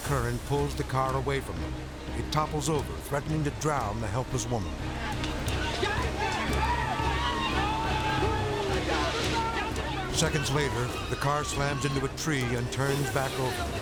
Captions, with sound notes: pulls the car away from them. It topples over, threatening to drown the helpless woman. (bystanders shout) Seconds later, the car slams into a tree and turns back over,